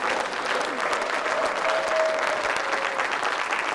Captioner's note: applause